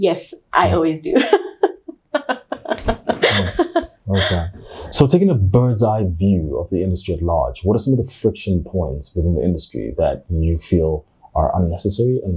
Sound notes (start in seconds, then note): 1.2 chuckles; 2.5 fists bumping